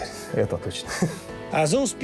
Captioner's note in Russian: смеется